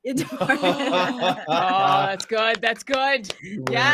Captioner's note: laughing